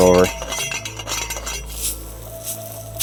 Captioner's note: metal clanking; ambient music